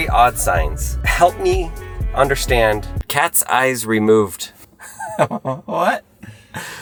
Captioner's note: laughs